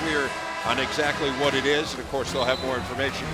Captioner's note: voice fades